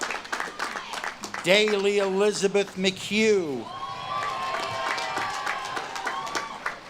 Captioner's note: audience claps and cheers